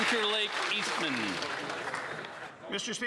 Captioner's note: some Applause